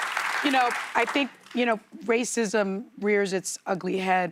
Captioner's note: applause